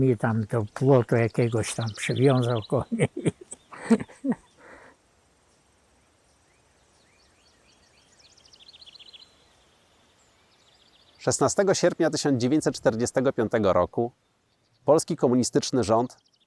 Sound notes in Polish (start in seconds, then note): 2.8 śmiech; 6.8 śpiew ptaków